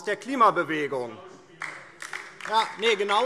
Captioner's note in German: Beifall DIE LINKE - Zuruf